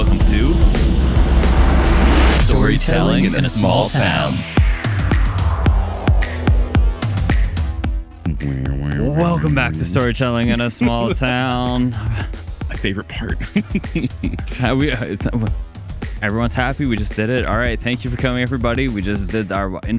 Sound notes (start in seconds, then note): 5.5 upbeat Music; 14.7 laughs